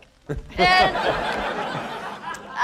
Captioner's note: laughter